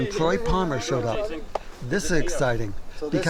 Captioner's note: indistinct chatter